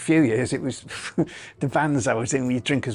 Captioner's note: chuckles